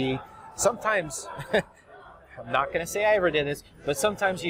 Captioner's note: chuckles